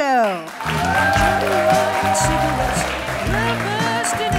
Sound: applause

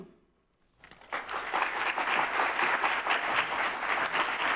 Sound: audience applauds

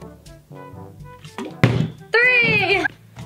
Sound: bottle landing

